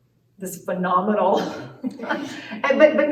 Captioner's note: laughter